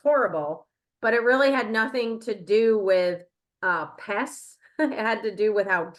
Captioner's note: chuckles